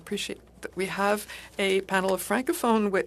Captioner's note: speaking French